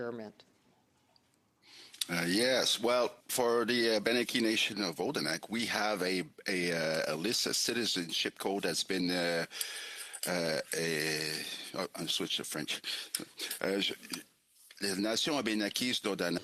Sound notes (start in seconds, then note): 7.2 speaking French